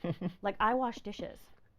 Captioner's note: laughing